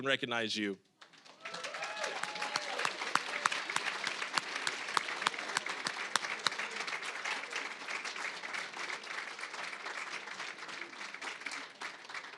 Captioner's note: applause